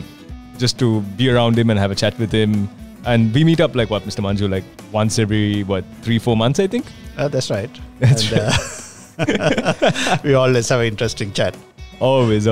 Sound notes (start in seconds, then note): 8.0 laughs